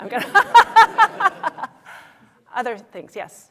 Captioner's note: laughter